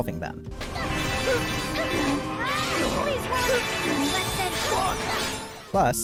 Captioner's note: grunting